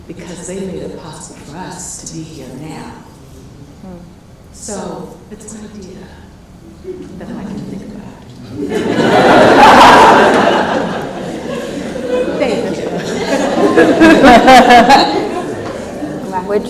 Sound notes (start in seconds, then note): 8.5 laughs